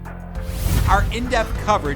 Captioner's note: scene swooshing